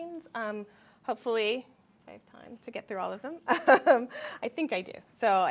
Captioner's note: chuckles